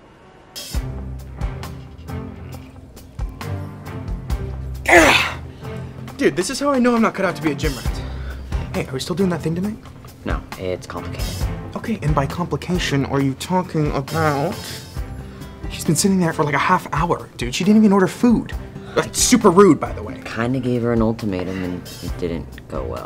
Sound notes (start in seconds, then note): 0.2 dramatic music; 4.8 groaning